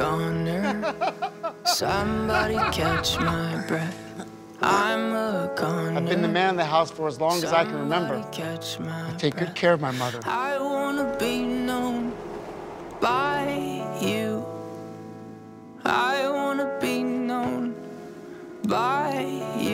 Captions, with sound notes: (Laugther) I have been the man of the house for as long as I can remember I take good care of my mother